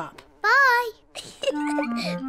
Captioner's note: giggles